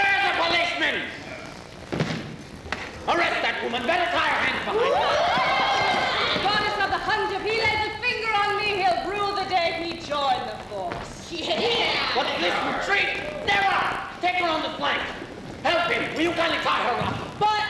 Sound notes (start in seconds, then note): 4.7 women yelling; 11.3 women voicing agreement